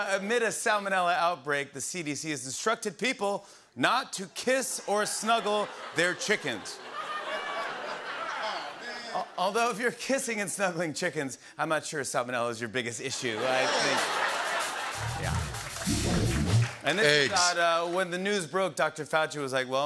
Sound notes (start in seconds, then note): 6.8 laughter; 13.1 laughter